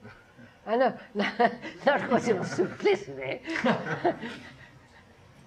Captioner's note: laughter